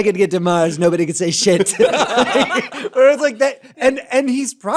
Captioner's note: laughter